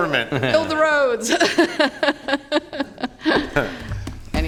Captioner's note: laughter